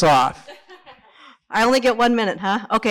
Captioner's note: laughs